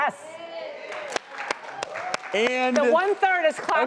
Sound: audience boos and claps

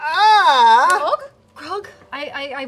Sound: yells

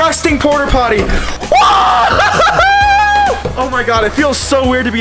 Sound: cheering

